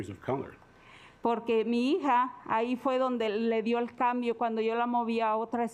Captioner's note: speaking Spanish